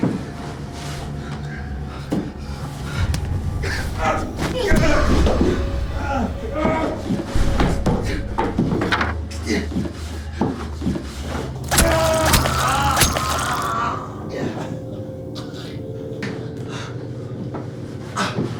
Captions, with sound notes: Oh God, Lindsay. (Robert screaming) (Robert gurgling)